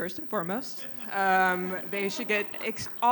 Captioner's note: laughter